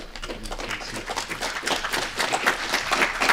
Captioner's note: applause